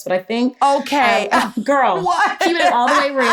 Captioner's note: laughs